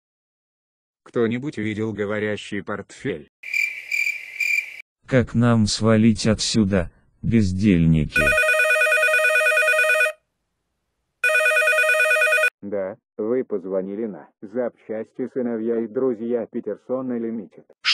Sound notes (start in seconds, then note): 3.4 cricket sound; 8.4 phone's ringing